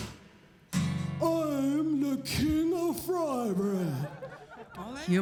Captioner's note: in deep, dopey voice; laughing